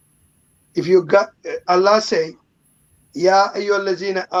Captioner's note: speaking in foreign language